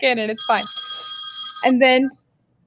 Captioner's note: phone ringing